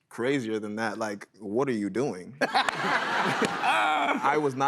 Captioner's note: laughter